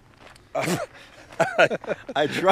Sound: laughing

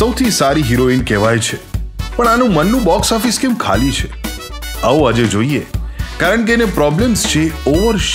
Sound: none

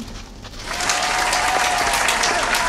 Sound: applause

